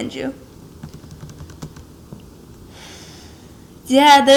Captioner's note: takes a deep breath